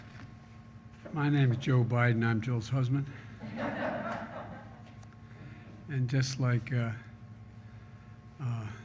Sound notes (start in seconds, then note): 3.4 laughter